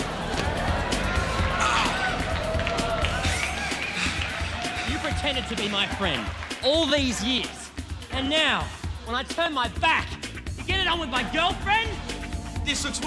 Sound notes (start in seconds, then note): 0.0 audience gasps; 1.6 John groans